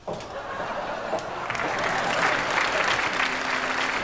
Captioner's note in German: klatschen